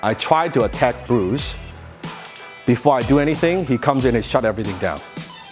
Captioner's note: none